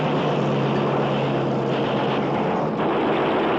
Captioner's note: gunfire